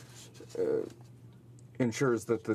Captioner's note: speaking in French